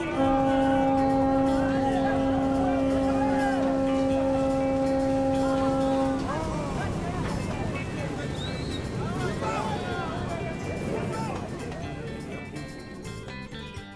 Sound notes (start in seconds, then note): 0.0 horn blaring; 7.9 passengers chattering and whistling